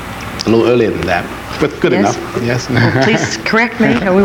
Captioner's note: laughs